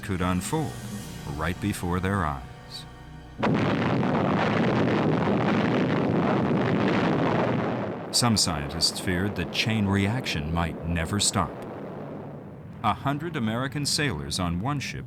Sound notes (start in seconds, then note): 3.4 explosion